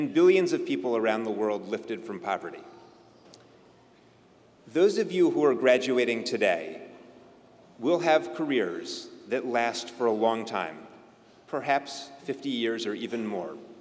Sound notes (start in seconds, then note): none